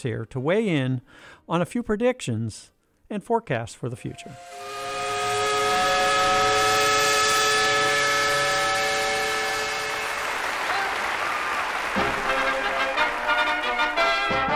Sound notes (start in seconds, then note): 4.2 steam whistle; 9.8 applause; 12.6 marching band music